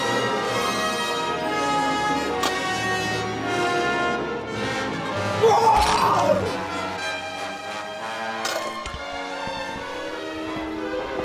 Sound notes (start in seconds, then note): 5.4 Dwight roars; 7.2 dramatic instrumental music